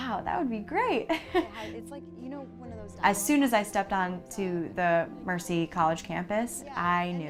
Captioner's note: laugh